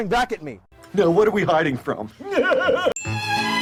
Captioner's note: weird laugh